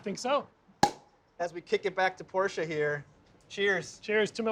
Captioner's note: cork pops